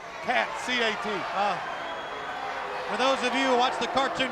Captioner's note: crowd cheering